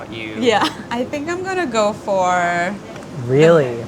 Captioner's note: laughs